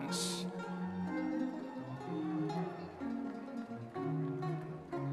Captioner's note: audience members cheering